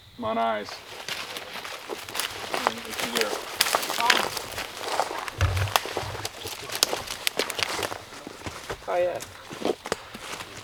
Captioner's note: walking noises